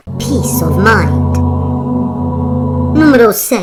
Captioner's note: ommmmmm